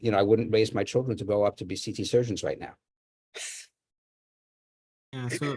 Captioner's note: laughs